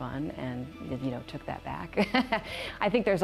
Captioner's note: risos